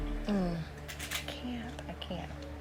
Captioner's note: sighs